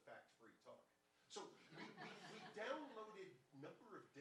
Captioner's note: audience laughing